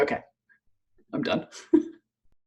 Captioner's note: chuckles